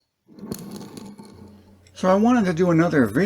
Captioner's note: sliding sound